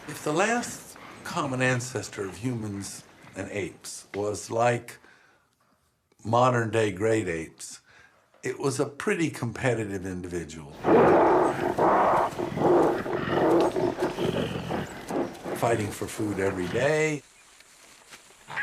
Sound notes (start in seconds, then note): 10.7 growling